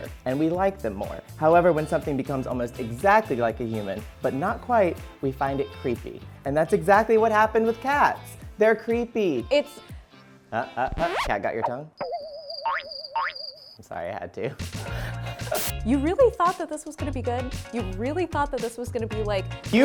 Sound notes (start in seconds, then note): 12.0 crickets chirping; 14.7 laughing